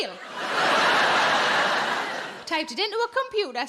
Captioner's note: audience laughing